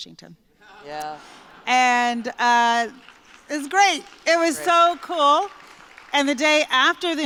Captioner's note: laughter and applause